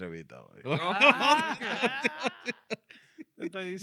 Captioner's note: speaking Spanish